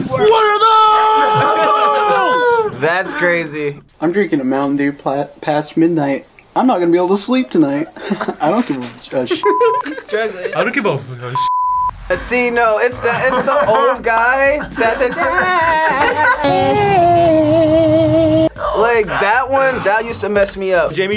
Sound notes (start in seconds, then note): 9.4 beep; 11.3 beep; 14.4 vocalizes; 16.4 old man vocalizes